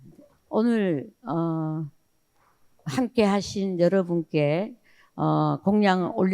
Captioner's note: speaking in foreign language